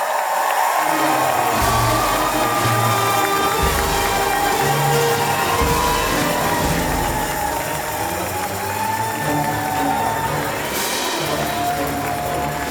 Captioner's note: applause and cheers